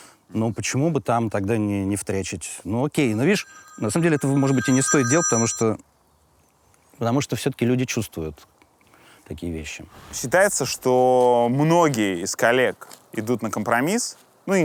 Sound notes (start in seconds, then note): 3.1 phone rings; 3.2 phone stops ringing